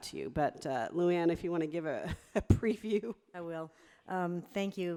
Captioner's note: laughs